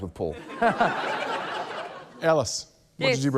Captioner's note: laughter